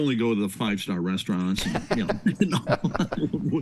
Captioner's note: all chuckling